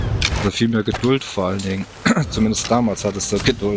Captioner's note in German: räuspern